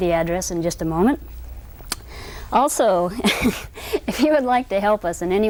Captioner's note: laughs